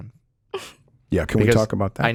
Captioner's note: chuckles